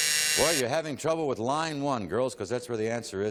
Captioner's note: buzz